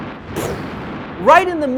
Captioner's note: gunshots